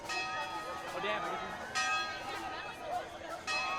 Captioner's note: chatter